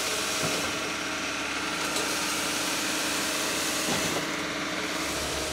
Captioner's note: machines and engine revving